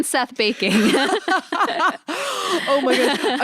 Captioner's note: laughs